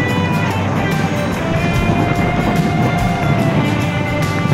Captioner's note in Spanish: sopla fuerte viento